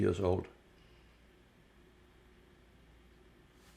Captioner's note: pauses 6 seconds